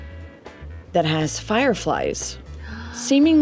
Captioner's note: gasps